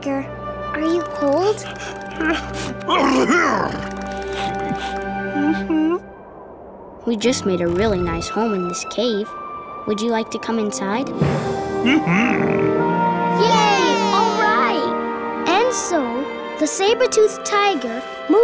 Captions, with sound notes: are you cold? [sneezing] [shivering] Mm-hmm. We just made a really nice home in this cave. Would you like to come inside? Mm-hmm. - Yay! - Alright! And so, the saber-toothed tiger, moved in